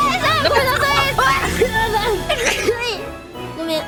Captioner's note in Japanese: くしゃみ; くしゃみ